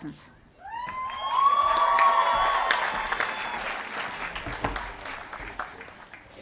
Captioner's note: applause